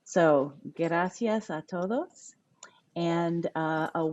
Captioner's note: speaking a foreign language